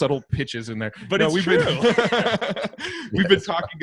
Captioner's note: laughter